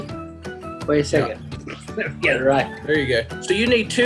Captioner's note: laughs